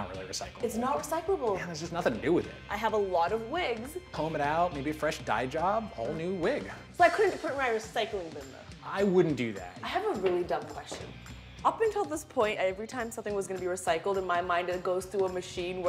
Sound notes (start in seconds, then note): none